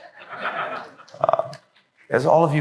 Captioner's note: laughter